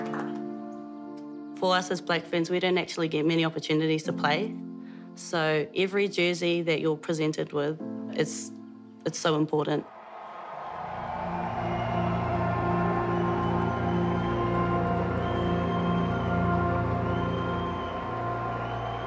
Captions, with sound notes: - For us as Black Ferns, we don't actually get many opportunities to play. So every jersey that you are presented with, it's so important. (crowd cheering) (gentle music)